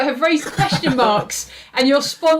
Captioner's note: laughs